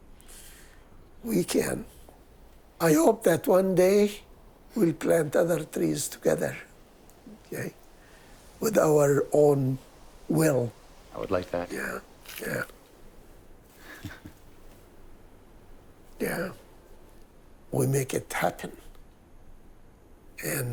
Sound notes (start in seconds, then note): 15.3 chuckles